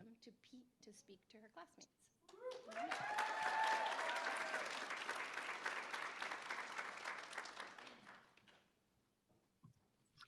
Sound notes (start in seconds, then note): 2.3 applause; 2.5 cheering